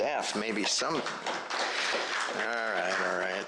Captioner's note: applause